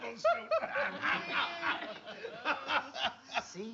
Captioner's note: laughs